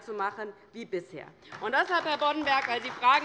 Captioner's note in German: Beifall bei der LINKEN